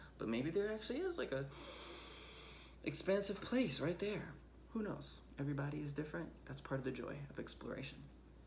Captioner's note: inhales